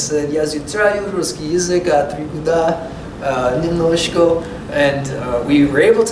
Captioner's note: foreign language